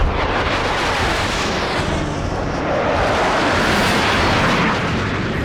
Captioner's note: jet whoosh